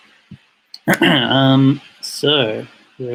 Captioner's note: clears throat